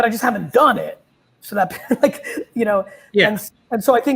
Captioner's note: chuckles